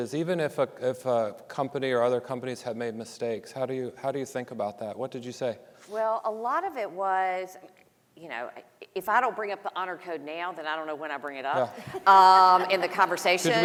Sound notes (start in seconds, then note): 13.3 audience laughing